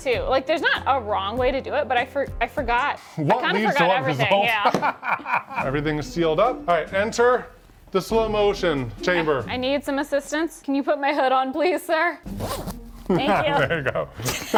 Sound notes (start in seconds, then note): 4.2 laughing; 12.2 zipper zipping